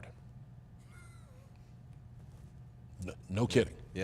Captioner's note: Cody chuckles